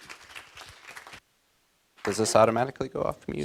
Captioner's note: applause